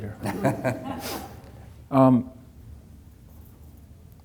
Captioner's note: chuckling